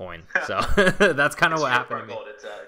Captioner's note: laughter